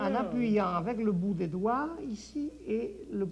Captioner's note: conversing in French